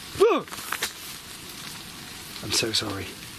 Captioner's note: gasps